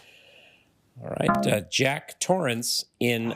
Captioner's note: failure chime